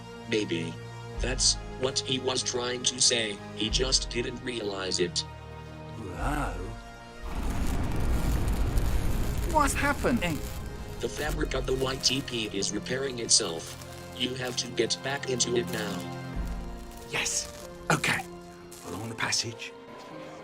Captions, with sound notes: Maybe... that's what he was trying to say, he just didn't realize it. Whoa. *rumble, spark* Rumble & Spark, Saturdays on The CW! What's happening? The fabric of the YTP is repairing itself. You have to get back into it now. Yes. Okay. Along the passage.